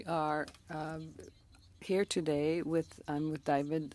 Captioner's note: speaking French